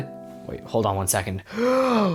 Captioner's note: deep breath in